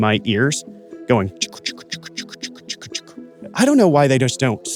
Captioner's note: mimics blood pulsing